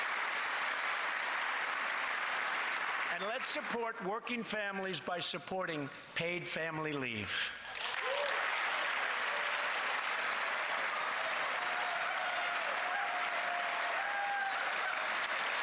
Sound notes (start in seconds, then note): 4.2 applause; 15.3 applause